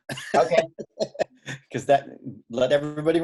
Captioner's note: laughing